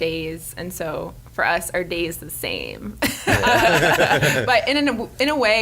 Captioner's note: laughs